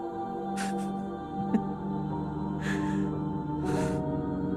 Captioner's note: laughs to himself